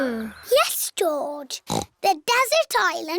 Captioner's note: snorts